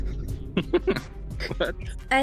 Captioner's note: laughs